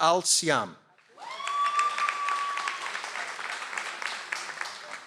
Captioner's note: audience applauds